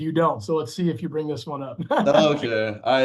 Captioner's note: chuckles